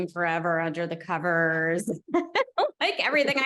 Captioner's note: laughter